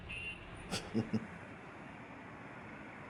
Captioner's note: chuckles